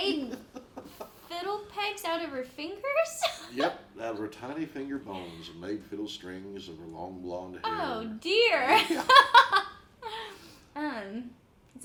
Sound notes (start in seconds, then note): 9.8 laughs